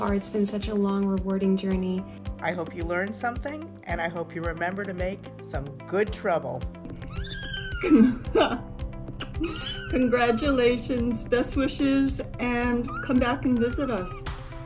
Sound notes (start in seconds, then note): 7.0 kitten meows; 9.2 laughs